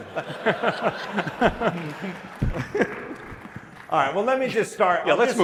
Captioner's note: laughter